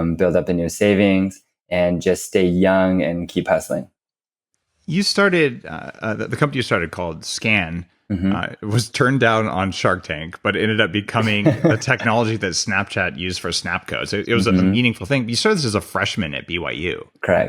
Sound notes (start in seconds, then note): 11.2 laughs